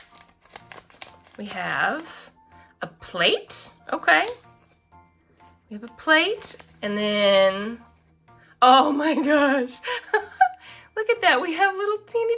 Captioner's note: laughs